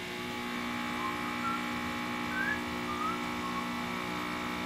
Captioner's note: whistles sesame street theme song